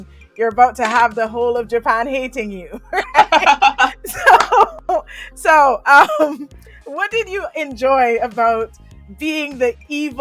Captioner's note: both laugh